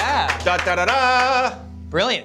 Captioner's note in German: imitiert trompeten-fanfare